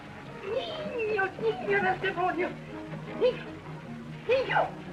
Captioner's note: spanish